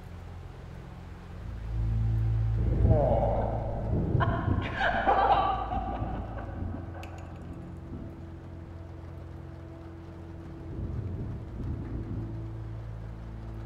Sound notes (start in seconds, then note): 4.2 Amy Laughs; 10.6 thunder Rumbles